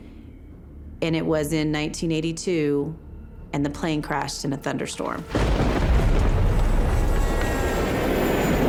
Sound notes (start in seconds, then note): 5.3 thunder crashes